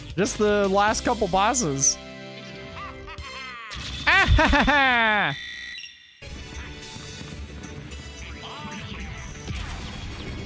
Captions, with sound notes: Just the last couple of bosses *Impression of Wario laughing*